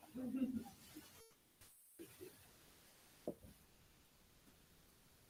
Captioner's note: attendees chattering